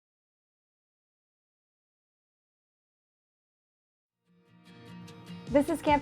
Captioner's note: silence